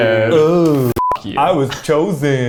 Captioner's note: beep